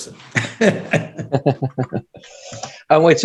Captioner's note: laughs